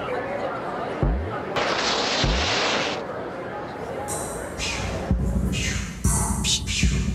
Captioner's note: bouncing; water splashing